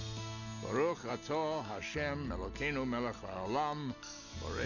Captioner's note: speaking Hebrew